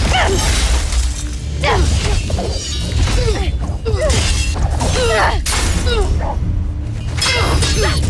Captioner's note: sword swoosh & groans; thudding, swishing, clanging; clanging, swishing, crackling; grunts & groans